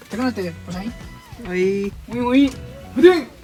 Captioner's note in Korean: 호응하는 소리